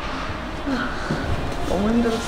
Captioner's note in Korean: 한숨